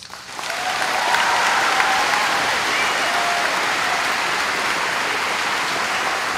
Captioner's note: applause